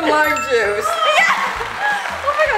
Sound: correct bell rings

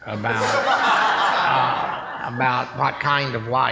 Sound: laughing

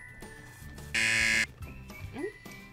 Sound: buzzer

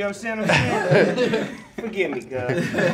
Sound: men laughing

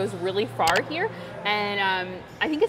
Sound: graphic clicks

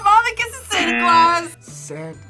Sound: buzzer

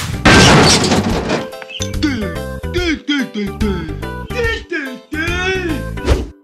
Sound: mysterious language

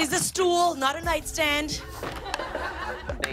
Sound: laughter

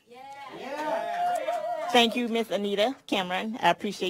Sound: cheers

